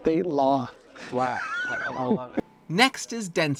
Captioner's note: laughs